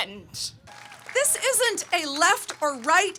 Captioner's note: audience cheering